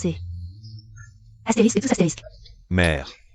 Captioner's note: cough cough